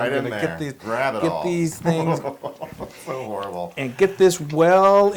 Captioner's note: laugh